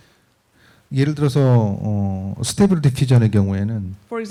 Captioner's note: speaking korean